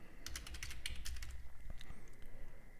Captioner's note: typing